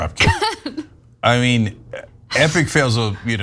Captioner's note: LAUGHl